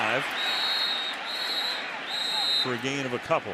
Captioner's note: whistle blows